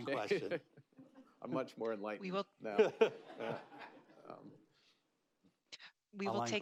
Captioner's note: laughter